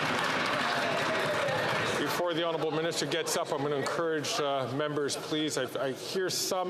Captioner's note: some Applause